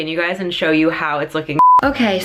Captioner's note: beeping